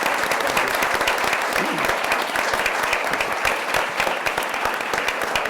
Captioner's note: audience applauds